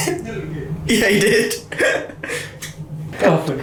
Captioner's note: laughing